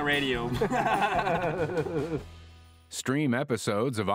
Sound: laughter

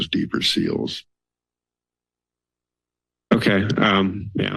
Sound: silence

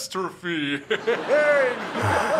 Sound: Blue and Green laugh

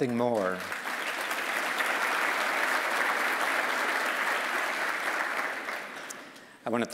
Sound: applause

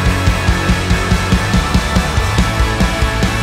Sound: none

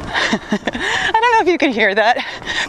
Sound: faint music playing; laughs

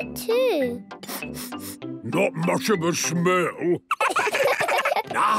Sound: sniffing; sniffs

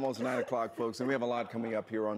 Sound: laughing

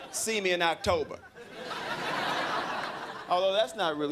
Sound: crowd laughing

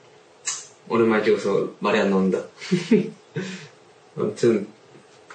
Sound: laughs

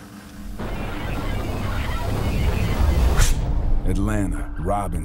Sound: electrical static

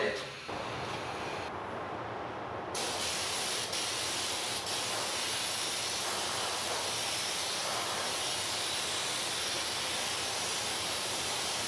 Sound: spraying

